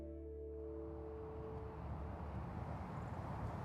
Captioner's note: soft music; air whooshing